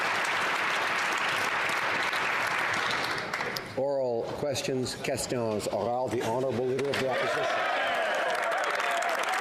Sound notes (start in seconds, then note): 2.7 applause